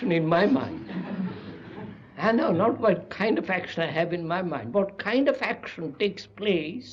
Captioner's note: laughter